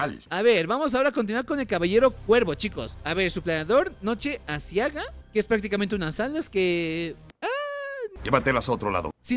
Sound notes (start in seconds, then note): 7.6 groan